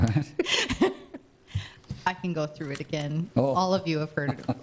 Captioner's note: laughing